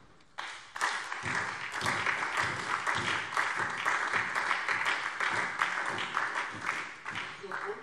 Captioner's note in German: Beifall SPD